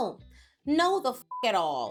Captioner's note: beep